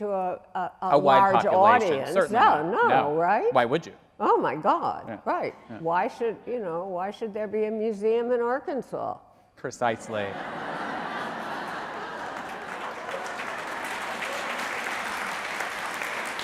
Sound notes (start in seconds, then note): 10.0 audience laughing; 13.1 audience applauding